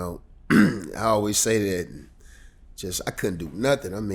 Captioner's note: clears throat